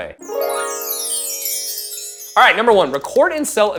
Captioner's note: bell chimes